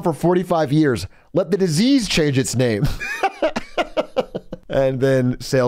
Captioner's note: laughs